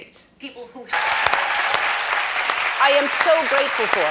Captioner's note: audience applauding